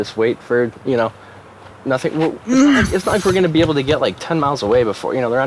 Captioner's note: Victor groans